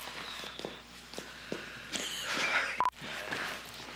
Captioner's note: rire